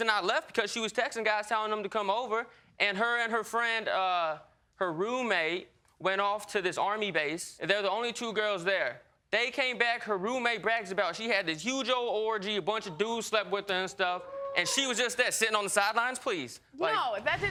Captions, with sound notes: And the reason I left, because she was texting guys, telling 'em to come over. And her and her friend, uh, her roommate, went off to this army base. They were the only two girls there. They came back, her roommate brags about, how she had this huge old orgy, a bunch of dudes slept with her and stuff. (AUDIENCE EXCLAIMING) And she was just there, sitting on the sidelines? Please.